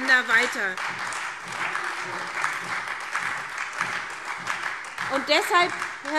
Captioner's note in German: Beifall SPD und Freie Demokraten